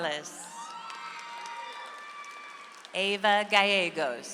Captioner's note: audience applauds